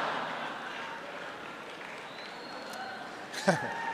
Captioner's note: laughter; applause